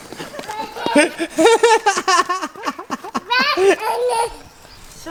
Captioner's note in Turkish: Gülüşmeler